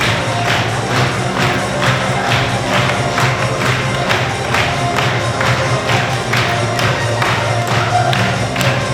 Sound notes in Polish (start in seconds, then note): 2.1 Aplauz